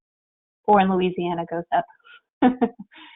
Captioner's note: chuckles